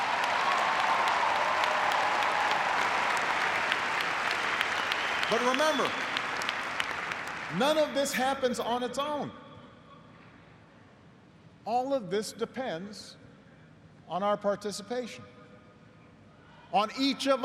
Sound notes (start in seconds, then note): 7.5 cheers and applause